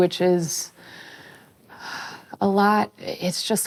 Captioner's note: sighs